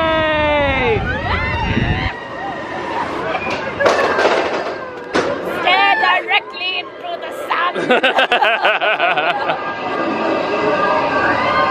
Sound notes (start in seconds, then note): 0.0 guests screaming excitedly; 3.0 track rattling; 7.7 both laughing